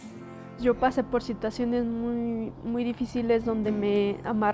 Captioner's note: speaking Spanish